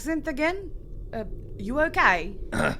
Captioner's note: “Normal” accent